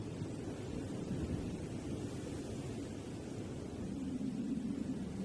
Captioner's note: wind whistling continues